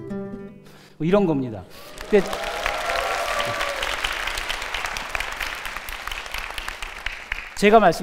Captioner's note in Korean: 환호와 박수